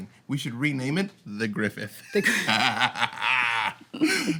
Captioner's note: laughs